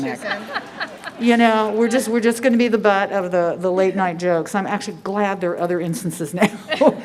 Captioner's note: laughter